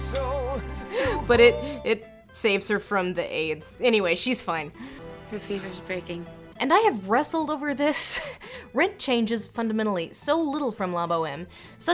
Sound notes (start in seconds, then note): 1.1 laughs